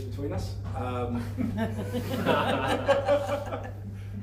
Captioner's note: laughing